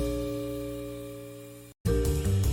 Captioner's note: none